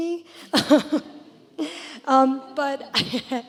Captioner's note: laughter